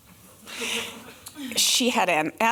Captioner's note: laughter